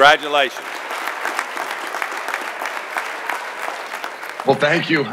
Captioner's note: audience applauding